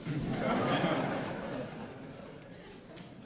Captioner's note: laughs